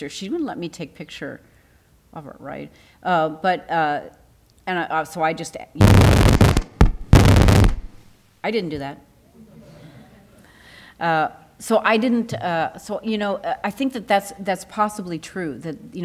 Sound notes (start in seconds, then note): 5.8 microphone feedback